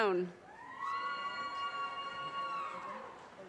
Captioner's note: audience cheers and applause